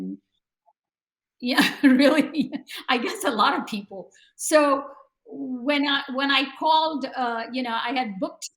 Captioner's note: laughs